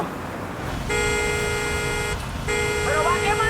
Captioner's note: car horn sounds